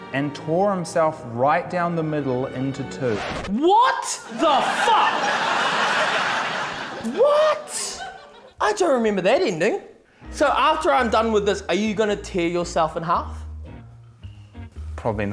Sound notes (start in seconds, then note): 3.0 record scratches; 4.2 laughter